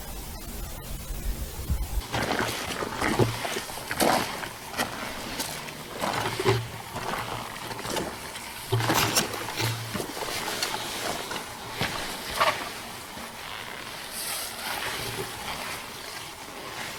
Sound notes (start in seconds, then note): 2.6 footsteps crunching